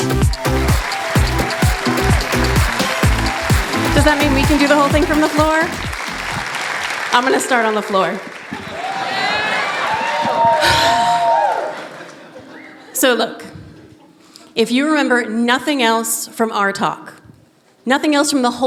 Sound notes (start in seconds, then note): 0.9 applause; 8.8 cheers; 10.6 sighing